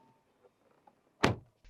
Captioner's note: door Thud